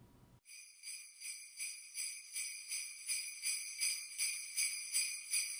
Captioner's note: sleigh bells